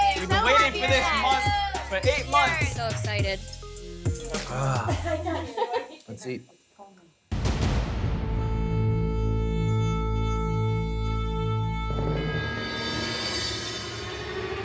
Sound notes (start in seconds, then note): 4.3 sighs; 7.3 dramatic sound